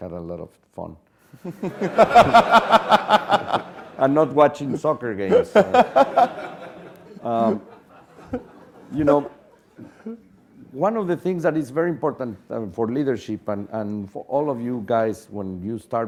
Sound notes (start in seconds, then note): 1.5 laugh; 5.2 laugh